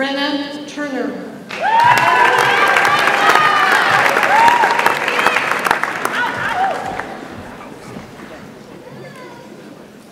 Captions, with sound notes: Brenna Truher. (audience applauds and cheers)